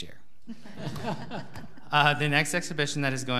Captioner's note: audience laughing